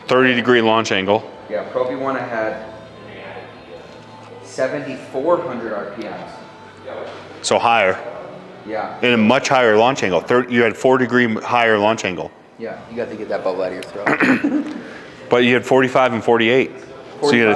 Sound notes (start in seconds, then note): 14.0 clears throat; 14.0 giggles